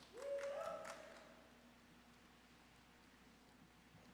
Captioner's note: audience cheers